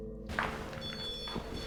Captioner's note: REM pod beeps